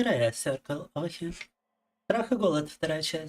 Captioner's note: speaking in Russian